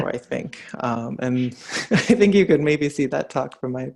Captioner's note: giggles